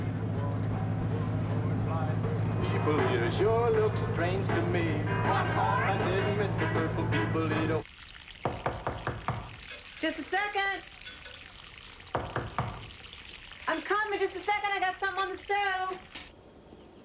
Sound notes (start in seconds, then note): 8.4 knocking at door; 12.1 knocking